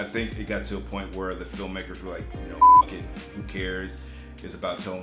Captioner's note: beep